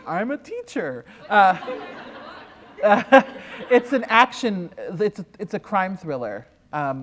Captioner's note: laughter